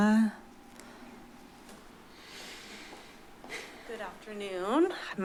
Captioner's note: silence